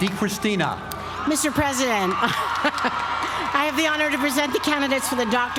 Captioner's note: laugh